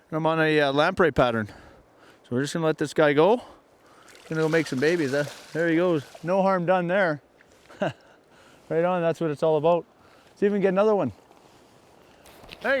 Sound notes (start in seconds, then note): 3.8 splashing; 7.6 laughs